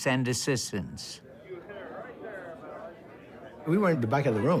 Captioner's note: people talking in background